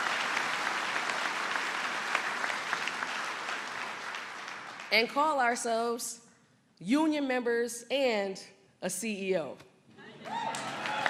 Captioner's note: applause